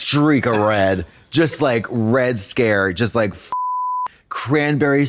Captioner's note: beep